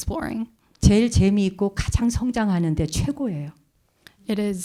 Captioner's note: speaking in Korean